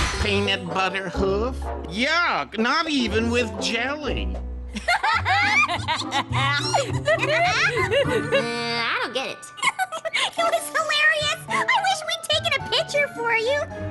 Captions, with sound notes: "Peanut butter hoof? Yuck! Not even with jelly." [laughter] I don't get it. It was hilarious. I wish we'd taken a picture for you.